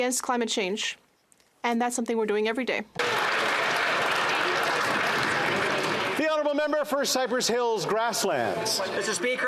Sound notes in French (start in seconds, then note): 6.1 applaudissements